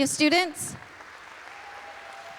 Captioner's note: applause